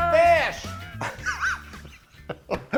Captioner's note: both laughing